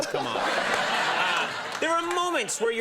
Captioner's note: audience laughing